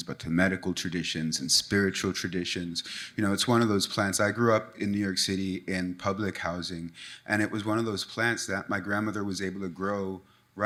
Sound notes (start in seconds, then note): none